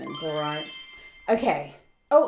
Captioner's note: chime